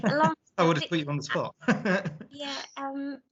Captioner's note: laughs